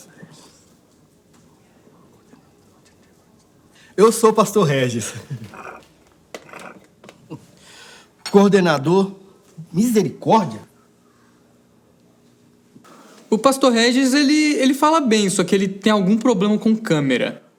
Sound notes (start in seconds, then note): 4.7 laugh; 7.2 inhales